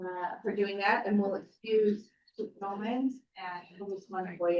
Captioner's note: speaks faintly